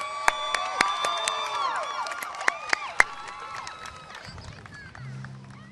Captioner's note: applause